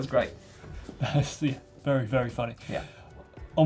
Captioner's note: laughs